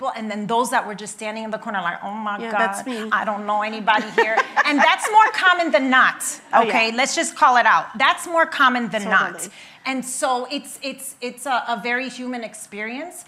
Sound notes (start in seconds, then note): 3.9 laughing